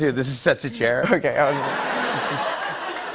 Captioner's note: laughter